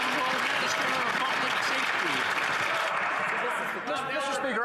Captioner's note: some Applause